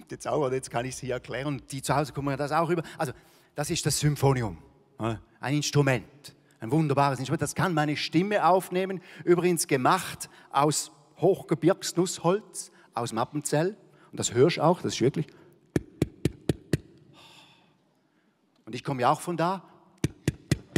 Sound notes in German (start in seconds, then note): 16.1 Klopfen